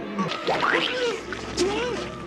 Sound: squish sfx

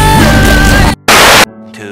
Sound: tv static

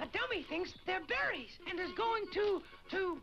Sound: laughs

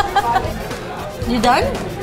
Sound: laughs

